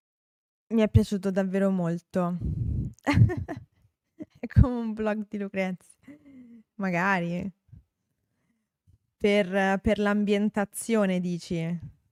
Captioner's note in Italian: risate